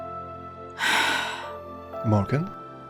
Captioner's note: Morgan sighs